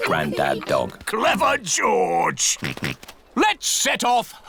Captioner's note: snorts